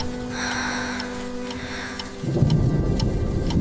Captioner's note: sighs